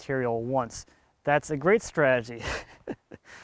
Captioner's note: laughs